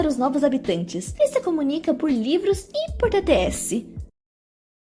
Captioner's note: text To Speech